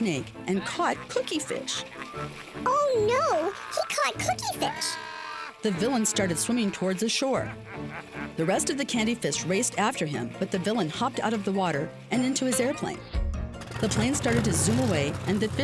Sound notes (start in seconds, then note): 2.3 high-pitched Voice